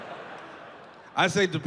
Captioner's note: audience laughing